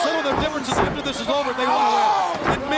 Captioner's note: wrestler screams